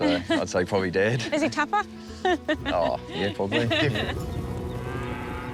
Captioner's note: laughs